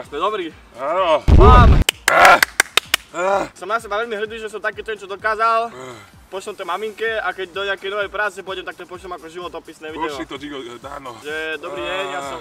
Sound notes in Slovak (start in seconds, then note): 1.9 zvuky tlieskania a aj ten pofidérny lev sa tam ozval; 5.7 vzdychacia pauza